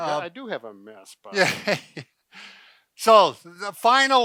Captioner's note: laughs